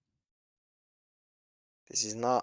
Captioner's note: pause